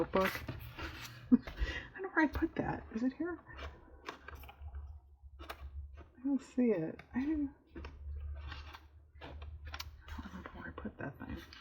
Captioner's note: laughs